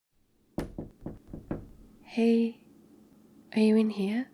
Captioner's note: knocking